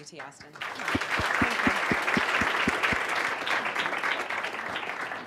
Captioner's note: applause